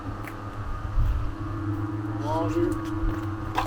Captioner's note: machine buzzing